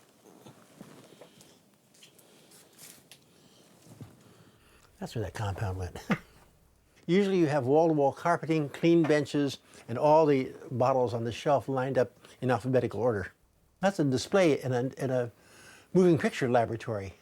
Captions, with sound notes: That's where that compound went. (chuckles) Usually you have wall to wall carpeting, clean benches, and all the bottles on the shelf lined up in alphabetical order. That's a display in a moving picture laboratory